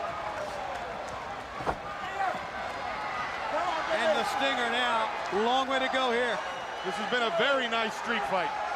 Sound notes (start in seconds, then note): 0.0 crowd chatter